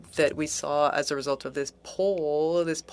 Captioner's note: speaking French